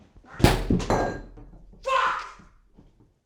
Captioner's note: bottle clattering